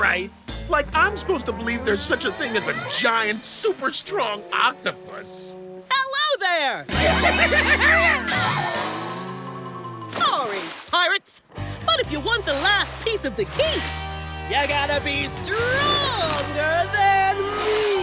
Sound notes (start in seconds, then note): 6.6 screaming